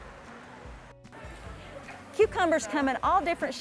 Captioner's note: people chattering